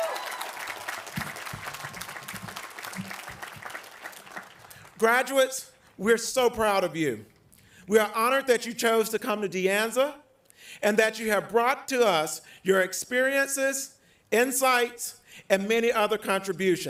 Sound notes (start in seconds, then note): 4.3 applause